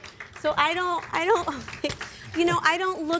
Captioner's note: chuckles